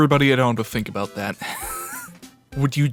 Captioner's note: wheeze